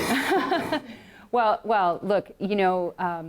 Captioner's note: laughs